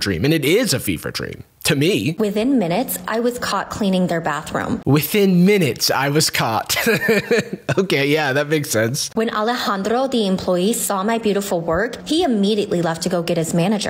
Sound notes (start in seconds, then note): 6.6 chuckles